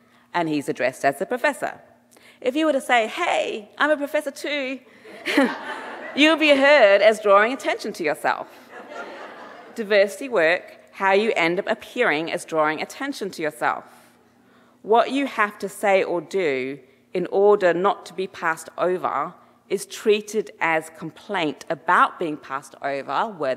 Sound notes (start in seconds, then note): 5.1 chuckles; 5.1 audience laughing